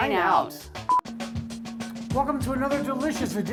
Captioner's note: electronic beep